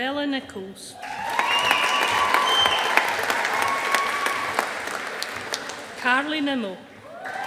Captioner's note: audience applauding